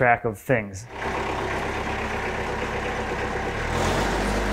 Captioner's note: engine rumbling